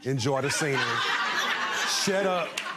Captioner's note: laughing